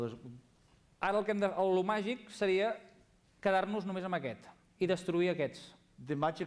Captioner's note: non-english speech